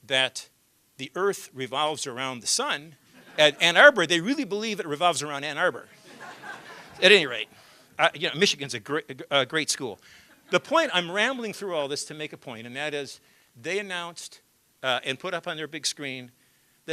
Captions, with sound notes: THAT THE EARTH REVOLVES AROUND THE SUN, AT ANN ARBOR, THEY REALLY BELIEVE IT REVOLVES AROUND ANN ARBOR [LAUGHTER], AT ANY RATE. MICHIGAN IS A GREAT SCHOOL. THE POINT I'M RAMBLING THROUGH ALL THIS TO MAKE A POINT AND THAT IS THEY ANNOUNCED AND PUT UP ON THEIR BIG SCREEN